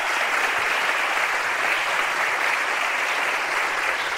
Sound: applause

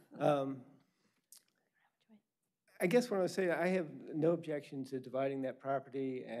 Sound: laughter

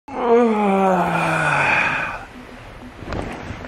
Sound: groans

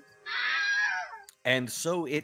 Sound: Wilhelm scream

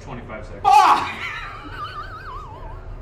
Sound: laughing

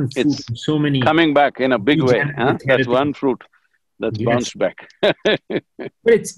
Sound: laughs

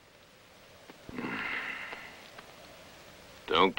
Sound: sigh

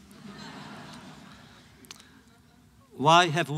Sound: laughter

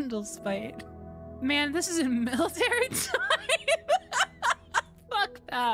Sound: laughter

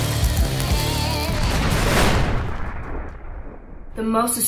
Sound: explosion

